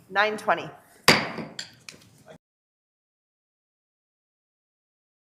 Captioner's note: gavel thumping